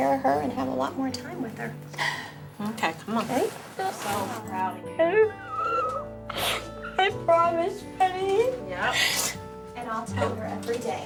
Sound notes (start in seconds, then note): 5.0 crying